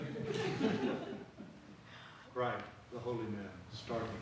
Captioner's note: audience laughs